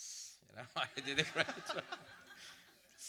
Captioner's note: audience laughter